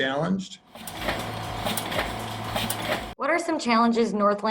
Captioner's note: machinery moving